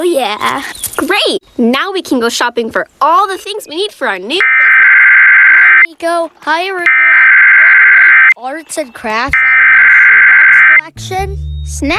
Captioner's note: alert Tones Playing; beep Noise Playing